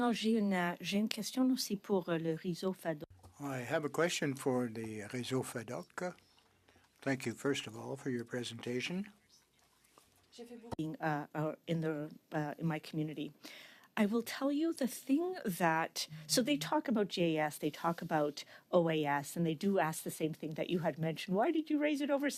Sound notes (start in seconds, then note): 4.2 speaking French